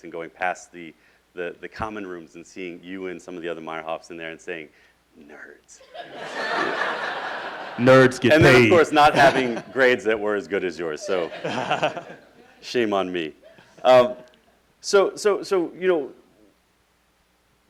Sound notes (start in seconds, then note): 5.8 laughing